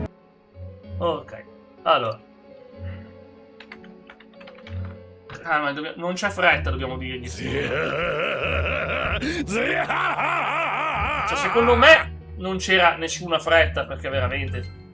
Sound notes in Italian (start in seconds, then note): 7.3 gemito; 9.9 urlo